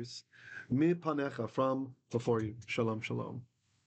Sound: Hebrew

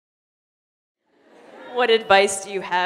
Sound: laughter

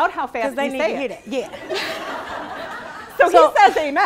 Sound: laughing

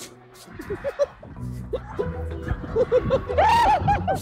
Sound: all laughing

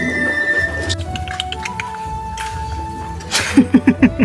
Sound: clicks tongue; laughs

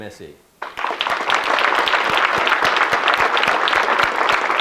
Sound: audience clapping

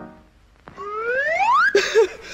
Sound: slide whistle up

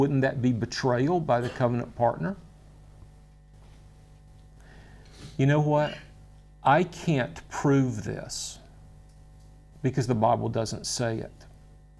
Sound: coughs

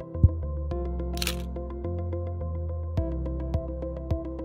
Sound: microphone tapping; camera clicks

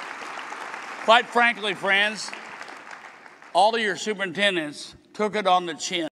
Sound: applause

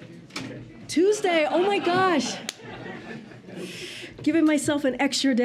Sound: laughter

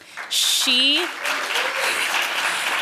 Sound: applause

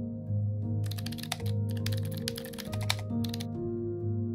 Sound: soft piano music; typing; soft piano music

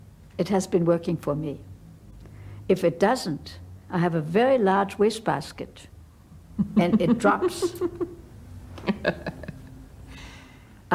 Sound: laughs

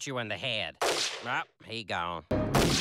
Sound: gunshot

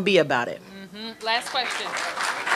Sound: applause

